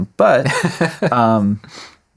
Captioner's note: laughing